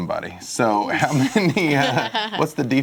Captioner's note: laughter